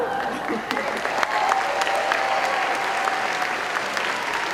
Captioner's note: applause